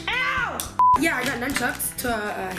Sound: beep

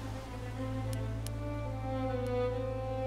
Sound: click, click

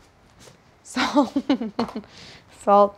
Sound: laughing

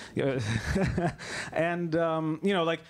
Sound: laughs

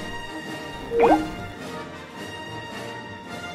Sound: phone call ends

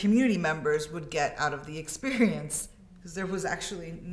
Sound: chuckles

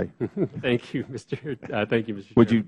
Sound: laughter

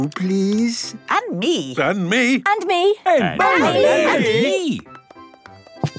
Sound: calling out in turn

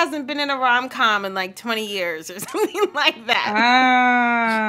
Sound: laughter

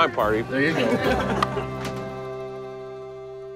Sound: laughter

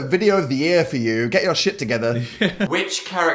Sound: laughs

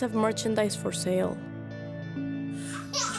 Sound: crying

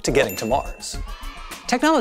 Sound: cheers

